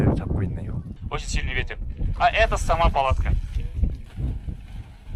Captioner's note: instructions given in the local language